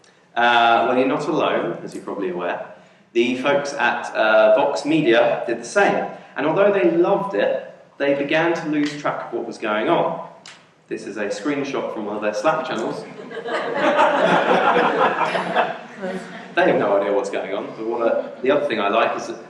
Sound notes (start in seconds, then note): 12.9 audience laughing